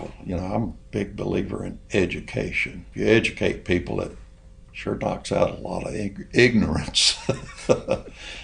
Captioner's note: laughs